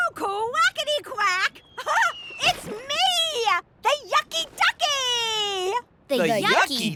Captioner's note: laughing